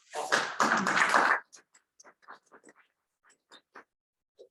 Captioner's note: audience clapping